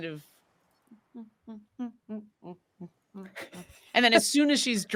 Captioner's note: Neb hums